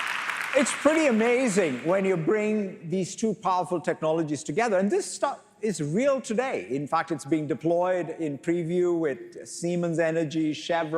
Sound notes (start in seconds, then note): 3.1 applause